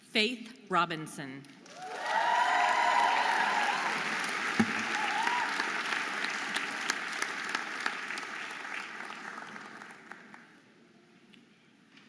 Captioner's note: audience applauding and cheering